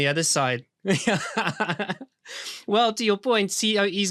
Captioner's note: man laughs